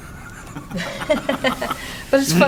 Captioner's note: laughter